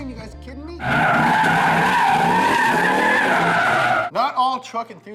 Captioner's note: tires squealing